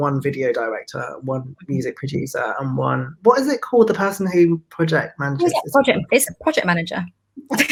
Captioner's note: both laugh